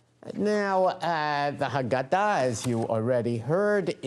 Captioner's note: none